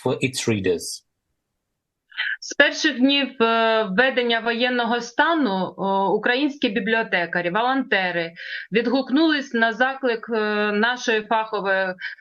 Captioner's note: foreign language